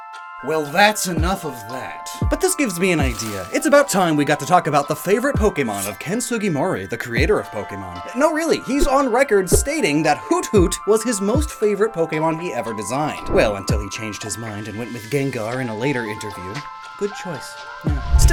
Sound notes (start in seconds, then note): none